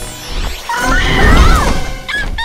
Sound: chirping

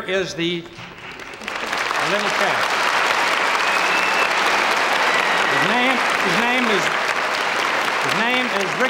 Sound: audience applauding

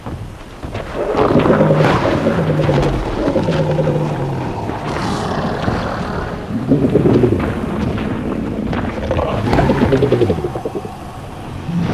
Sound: roaring and snarling

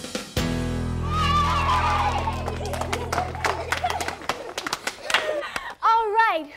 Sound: cheering, clapping

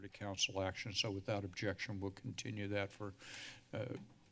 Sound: speech breath

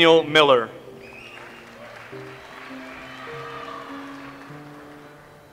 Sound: audience applauds

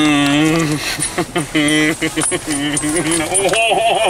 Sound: nervous giggles; stronger nervous giggles

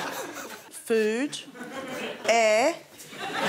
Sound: laughter

